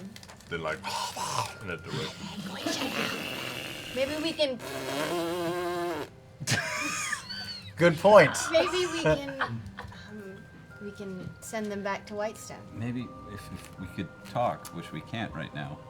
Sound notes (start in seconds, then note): 0.8 hissing; 5.2 buzzing fart sound